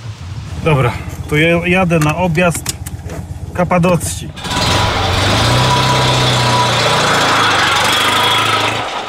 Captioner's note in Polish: warkot silnika